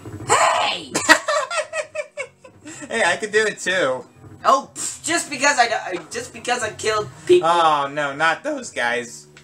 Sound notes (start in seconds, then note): 1.0 laughs